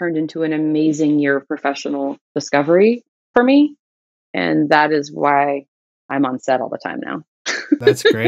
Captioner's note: laughter